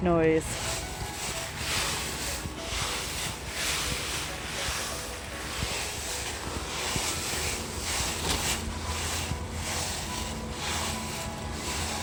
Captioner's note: leaves crunching